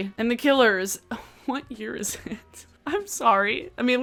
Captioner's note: chuckles